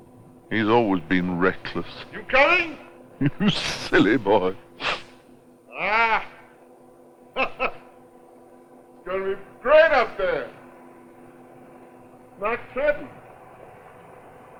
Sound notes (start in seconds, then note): 3.1 laughing; 4.7 sniffles; 7.3 chuckles